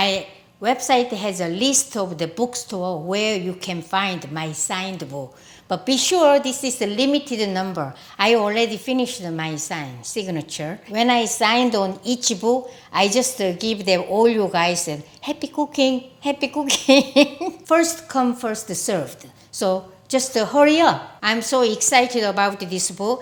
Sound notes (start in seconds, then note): 16.7 laughs